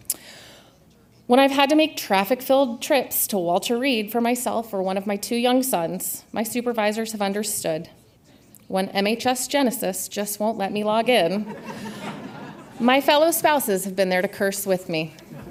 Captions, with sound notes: When I've had to make traffic-filled trips to Walter Reed for myself or one of my two young sons, my supervisors have understood. When MHS Genesis just won't let me log in, (audience laughs) my fellow spouses have been there to curse with me.